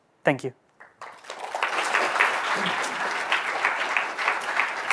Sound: audience applauds

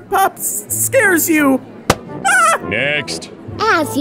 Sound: balloon pops, boy screams

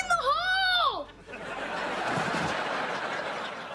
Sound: laughing

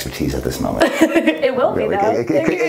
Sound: laughs

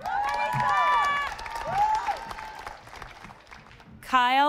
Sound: audience applauding

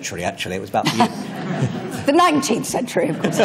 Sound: laughter

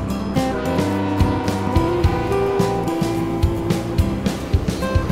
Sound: train whistling

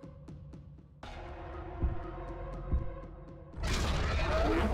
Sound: dinosaur growls

